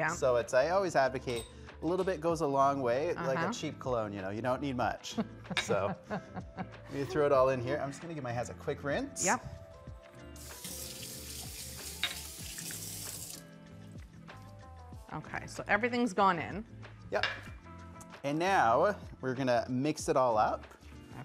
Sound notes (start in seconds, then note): 10.5 water rushing; 10.6 relaxing music